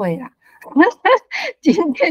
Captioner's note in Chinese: 哈哈哈